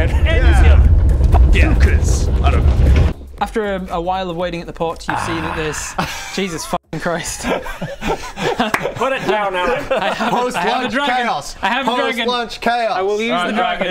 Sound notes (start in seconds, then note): 7.3 laughs in poor business sense